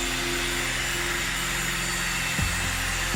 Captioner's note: chainsaw sound